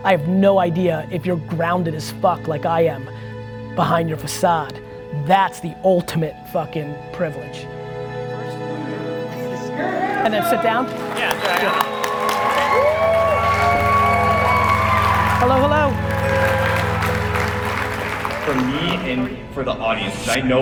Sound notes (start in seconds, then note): 12.1 audience applauding